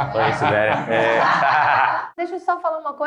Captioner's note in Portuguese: risos